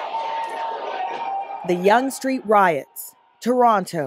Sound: yelling

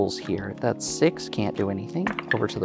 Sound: dice clattering

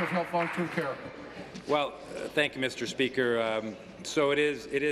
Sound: applause

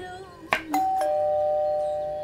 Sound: bell rings

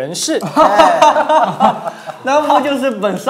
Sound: laughing

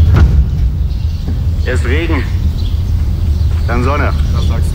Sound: breeze

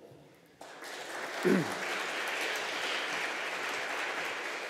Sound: audience applauding

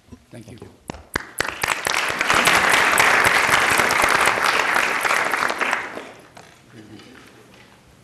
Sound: applause

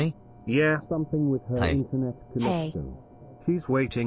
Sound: voice fades away

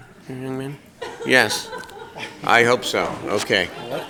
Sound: applause

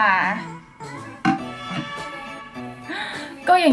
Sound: horn sound

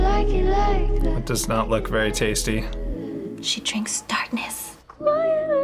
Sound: whispers

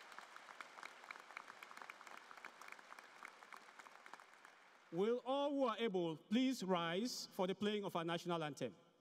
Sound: applause

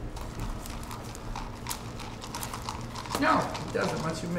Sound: ice cubes rattling

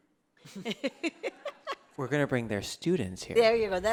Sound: laughter

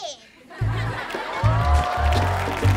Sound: cheering

